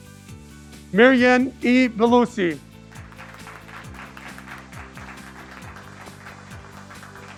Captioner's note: graduates clapping